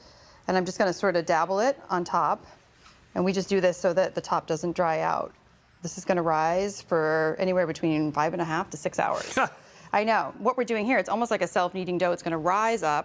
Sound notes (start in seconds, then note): 9.2 laughs